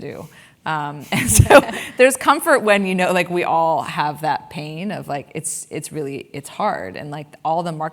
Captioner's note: laugh